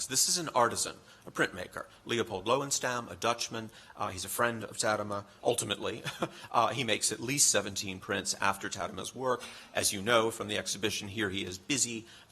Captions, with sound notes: This is an artisan, a printmaker, Leopold Löwenstam, a Dutchman, he's a friend of Tadema, ultimately. [laughs] He makes at least 17 prints after Tadema's work, as you know, from the exhibition. Here he is busy